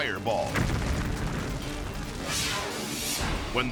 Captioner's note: explosion booms